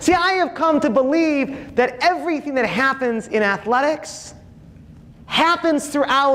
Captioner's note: none